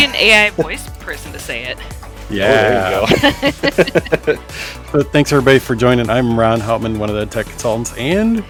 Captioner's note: laughter